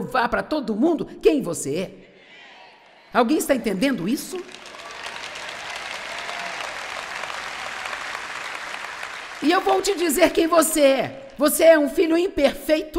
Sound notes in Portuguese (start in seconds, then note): 3.7 audiência aplaude